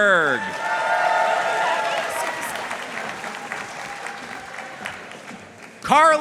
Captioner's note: audience cheering and applauding